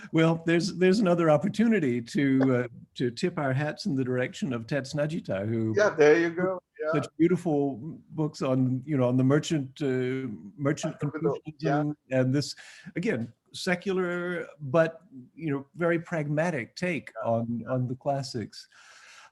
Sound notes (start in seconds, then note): 10.8 audio distortion